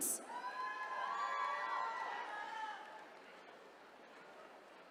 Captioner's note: attendees cheering